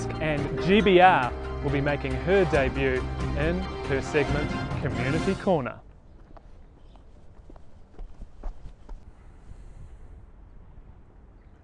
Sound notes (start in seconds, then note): 7.7 footsteps